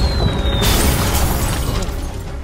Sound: crash

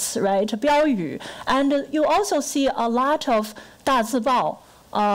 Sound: foreign language

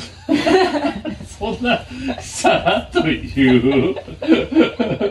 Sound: laughing super hard

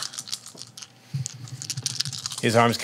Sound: dice rattling

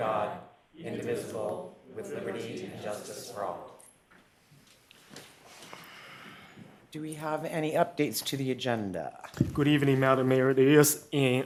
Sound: reciting the pledge of allegiance

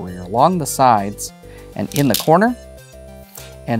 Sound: stones clattering

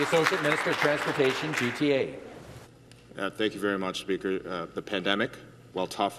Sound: some Applause

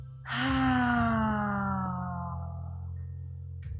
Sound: sighs

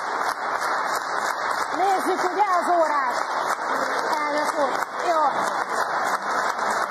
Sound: applause; applause

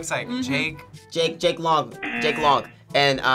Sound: buzzer

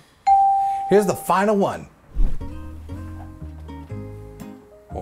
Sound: bell rings

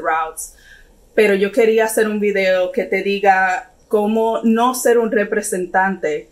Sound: speaks in foreign language

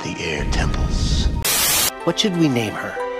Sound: Static

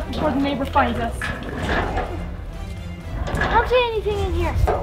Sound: metal rattling

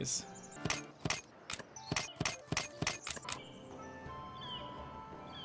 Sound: click click click

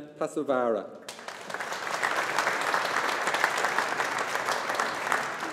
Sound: audience applauding

